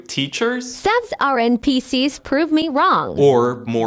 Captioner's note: AI voice